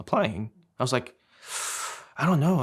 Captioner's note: inhales sharply